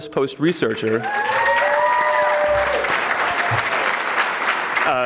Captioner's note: audience clapping; audience cheering